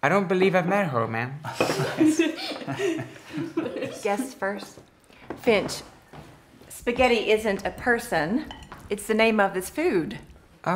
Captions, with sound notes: - I don't believe I've met her, Ma'am. (all laughing) - Guest first. Finch spaghetti isn't a person, it's the name of this food.